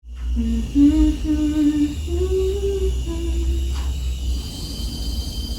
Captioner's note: humming